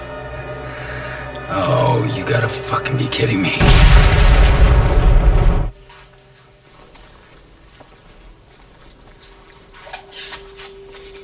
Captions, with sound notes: - Oh, you gotta fucking be kidding me. (grenade explodes)